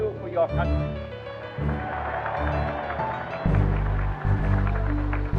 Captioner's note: applause